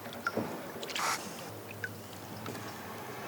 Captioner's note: squawks